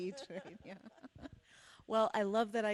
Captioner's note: laughs